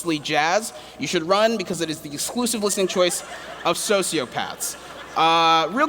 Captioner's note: laughter